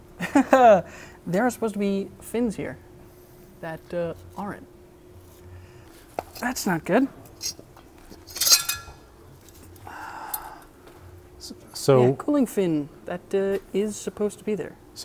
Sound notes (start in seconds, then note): 0.4 laughs; 8.2 metal clanks